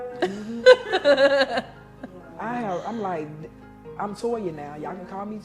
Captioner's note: laughs